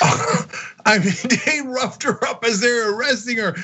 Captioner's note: laugh